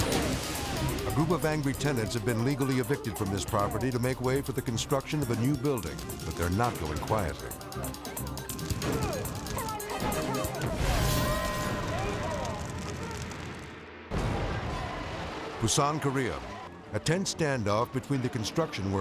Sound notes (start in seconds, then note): 7.5 tense music; 10.6 flames whooshing